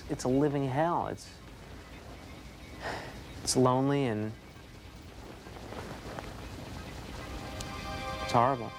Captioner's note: sighs